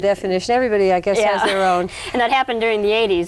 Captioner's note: laughs